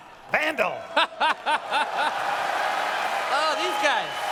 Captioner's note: audience cheers; laughs